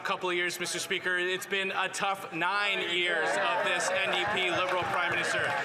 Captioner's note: some Applause